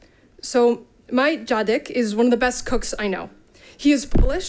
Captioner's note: speaks in Polish